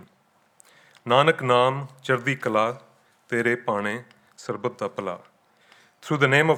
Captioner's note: speaking in foreign language